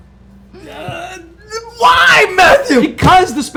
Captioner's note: yelling